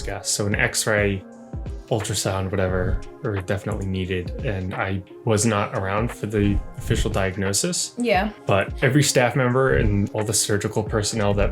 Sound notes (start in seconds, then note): none